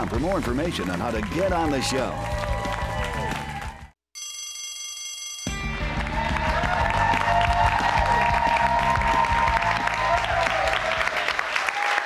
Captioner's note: bell rings; cheers and applause